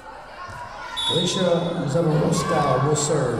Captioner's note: whistle blowing